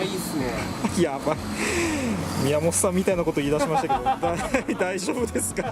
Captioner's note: laughs